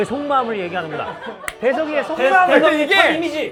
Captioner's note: clap